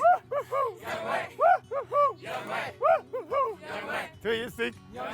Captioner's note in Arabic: جيلبرت ينادي بصوت عالٍ